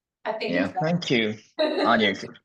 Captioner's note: laughter